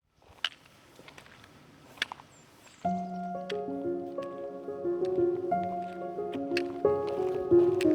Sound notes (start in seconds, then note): 0.2 soft footsteps crunching through gravel